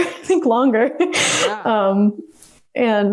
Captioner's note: laughs